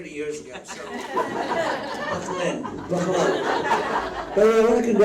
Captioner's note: audience laughs